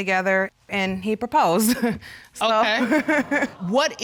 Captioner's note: laughs